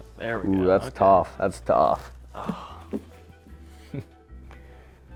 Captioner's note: laughs